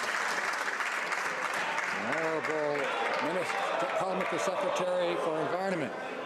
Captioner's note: some Applause